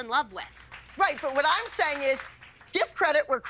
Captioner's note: applause